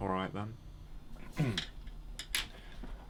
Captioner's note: clears throat